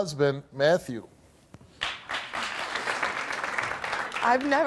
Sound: applauding

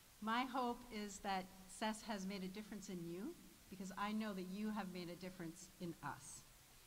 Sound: none

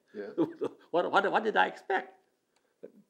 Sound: laughs

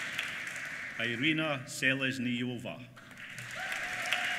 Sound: applause

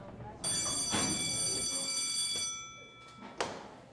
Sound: bell rings

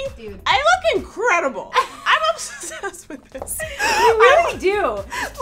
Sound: laughs

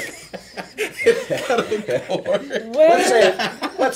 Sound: laughing

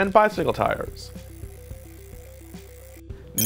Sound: spinning tire

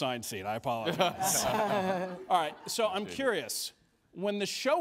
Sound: all laugh

